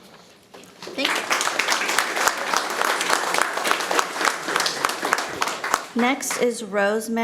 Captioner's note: audience applauding